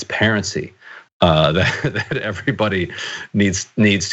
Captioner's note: laugh